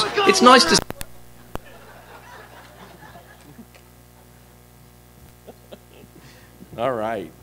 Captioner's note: laughter